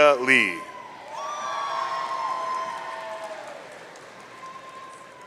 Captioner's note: audience cheering